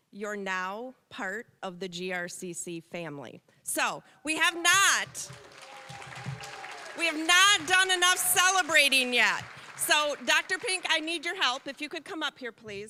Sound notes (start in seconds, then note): 5.0 applause; 5.7 applause, cheering